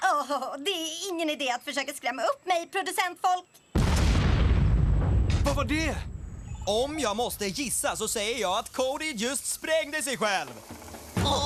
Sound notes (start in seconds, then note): 3.7 explosion